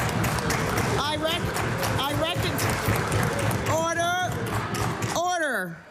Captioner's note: applause